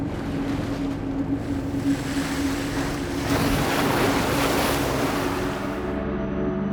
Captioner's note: waves crashing; ethereal music